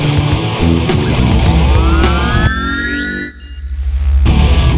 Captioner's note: power-up whirring